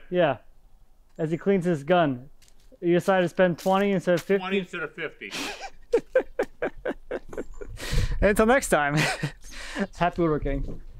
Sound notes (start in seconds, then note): 5.2 chuckles; 9.4 chuckles